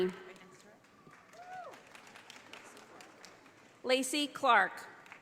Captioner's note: audience applauding